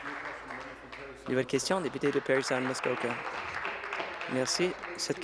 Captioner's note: applause